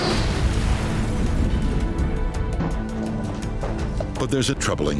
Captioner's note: aircraft exploding